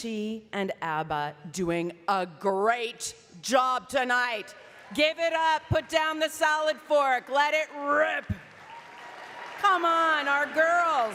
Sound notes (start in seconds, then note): 2.4 speaking French